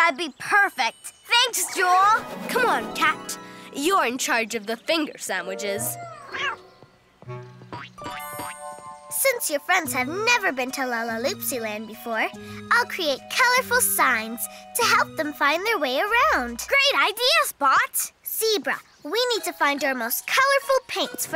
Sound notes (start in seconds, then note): 5.9 cat meows